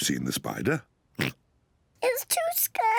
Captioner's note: oinks